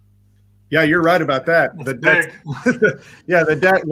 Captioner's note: laughs